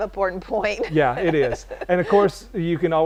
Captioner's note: chuckle